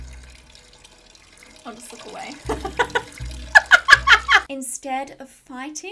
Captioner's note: laughs